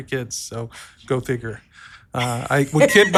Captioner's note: laughs